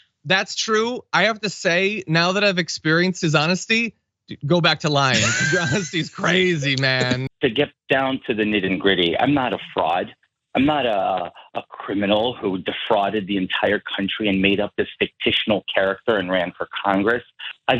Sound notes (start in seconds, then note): 4.9 laugh